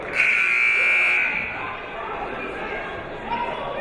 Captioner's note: buzzer blares